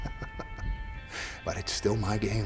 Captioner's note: narrator laughs